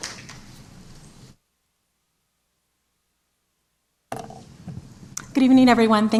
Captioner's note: applause